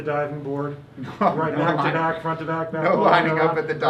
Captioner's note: chatting and chuckling